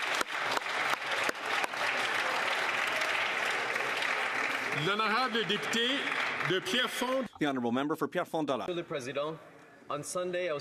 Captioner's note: some Applause